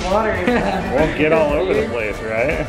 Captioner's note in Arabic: يضحك الصبي